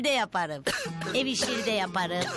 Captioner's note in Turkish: Öksürük sesi